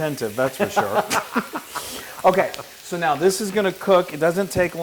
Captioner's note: laugh